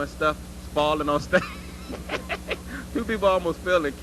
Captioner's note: laugh